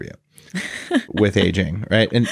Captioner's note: laughs